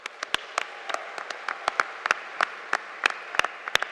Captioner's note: audience applauding